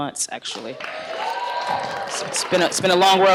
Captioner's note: applause